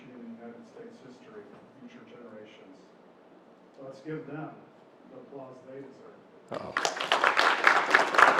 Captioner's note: applause